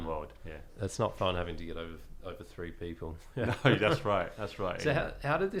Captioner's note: laughs